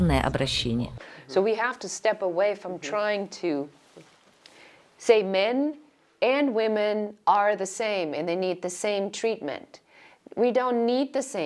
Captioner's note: Говорят на английском